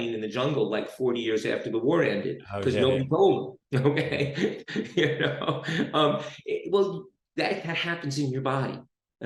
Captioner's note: laughs